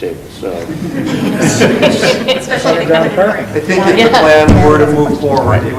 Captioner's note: board laughing